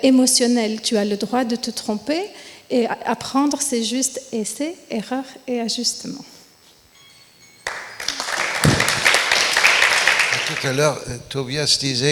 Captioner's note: applause